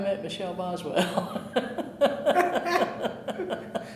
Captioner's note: laughing